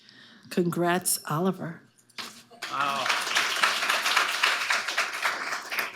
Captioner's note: audience applauding